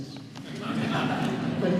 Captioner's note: laughter